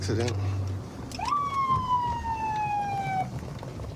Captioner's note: sirens blaring